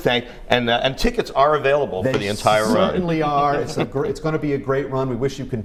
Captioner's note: laughter